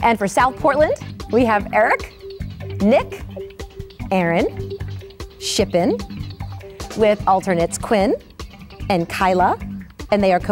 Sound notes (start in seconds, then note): none